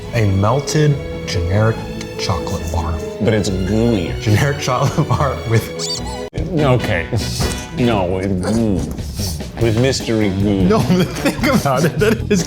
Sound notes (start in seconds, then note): 5.8 squeak; 10.2 laughing